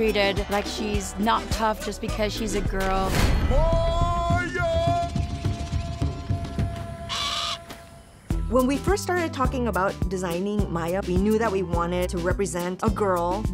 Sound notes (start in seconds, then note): 7.0 cawing